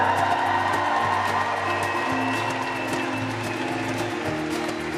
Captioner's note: applause